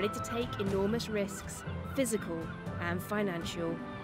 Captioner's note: seagulls squawking